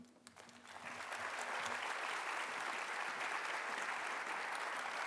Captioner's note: audience applauding